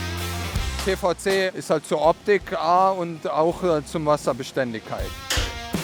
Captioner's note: German